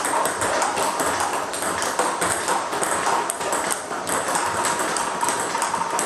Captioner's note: ball ping pong hitting continues